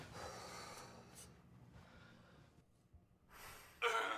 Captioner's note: Ava exhales